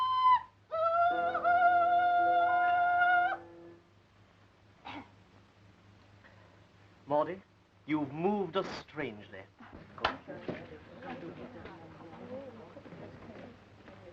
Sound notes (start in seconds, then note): 4.8 hoarse coughing; 10.6 chattering